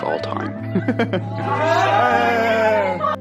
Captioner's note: cheering in revelation